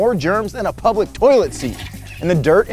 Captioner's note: toilet flushing